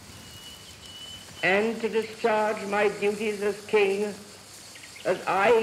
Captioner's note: radio broadcast of abdication